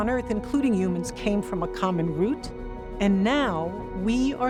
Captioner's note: none